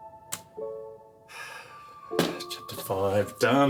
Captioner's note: sigh